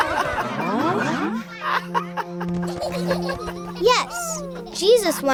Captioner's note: laughing